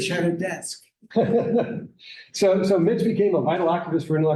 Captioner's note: laughs